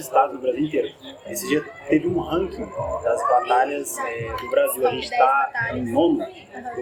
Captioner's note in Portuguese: barulho da plateia se dispersando ao fundo; barulho da plateia se dispersando ao fundo